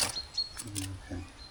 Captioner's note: beeping